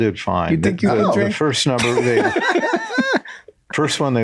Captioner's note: all laugh